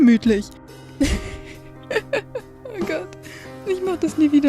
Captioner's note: laughing